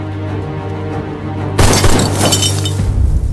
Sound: gun shots

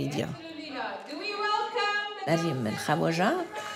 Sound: murmuring; speaking in a foreign language

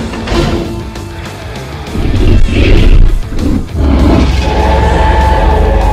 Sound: crashing sounds; growling sounds

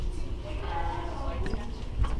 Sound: indistinct chatter continues

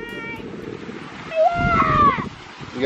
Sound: shouts

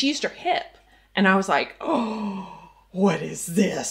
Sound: gasps

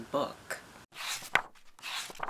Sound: pages turning

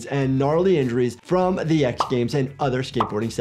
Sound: graphic pops

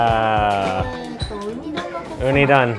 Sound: speaks in foreign language

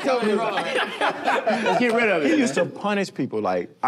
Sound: laughter

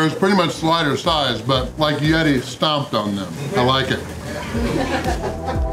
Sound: laughter

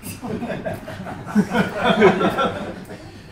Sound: laughs

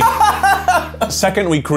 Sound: laughs

